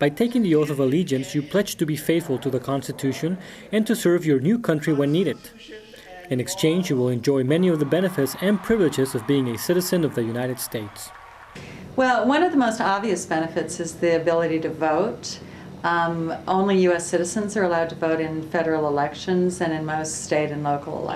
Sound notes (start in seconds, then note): 7.2 cheering